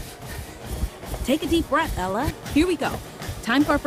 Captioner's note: app Voice